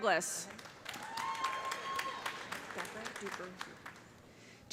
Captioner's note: cheers and applause